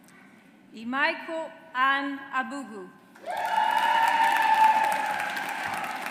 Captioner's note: audience applauds